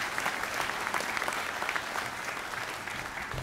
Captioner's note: applause